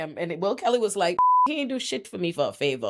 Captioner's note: beep